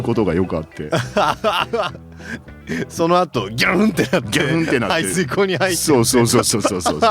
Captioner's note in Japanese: 笑い